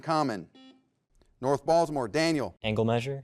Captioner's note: buzzer beeps